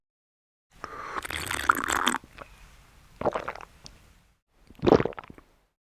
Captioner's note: sound fx: sipping & gulping. LOL